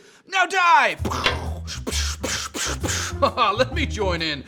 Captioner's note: fighting noises